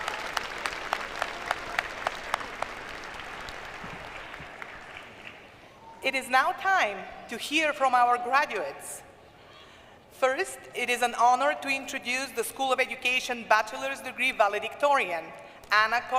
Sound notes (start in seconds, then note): 5.5 cheers & applause